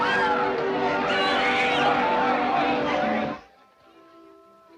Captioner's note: Gilly screaming